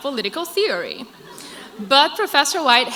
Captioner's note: crowd laughs